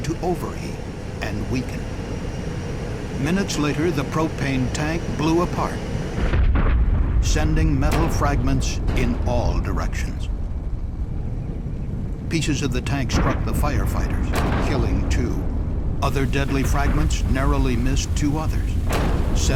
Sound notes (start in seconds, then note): 6.1 sound of explosion